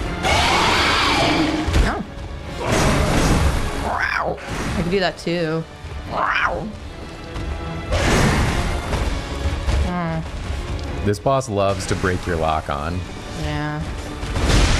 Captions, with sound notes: [loud growl] Oh. [growl] I can do that too. [growl] This boss loves to break your lock on. Yeah.